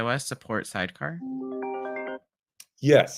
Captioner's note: computer chimes